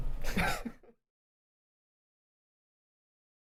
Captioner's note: laughing